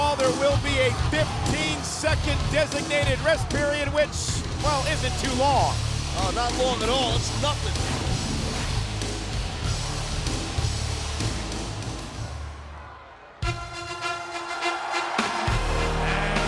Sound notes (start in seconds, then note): 8.0 title whooshes; 13.4 upbeat music; 15.3 audience cheering and clapping